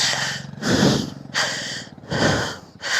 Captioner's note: gasp; gasping